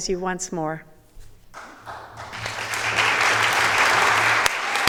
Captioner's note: audience applauding